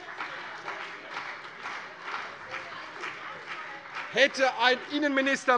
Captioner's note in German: Beifall CDU und vereinzelt BÜNDNIS 90/DIE GRÜNEN